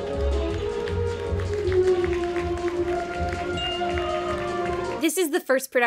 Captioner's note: audience applauding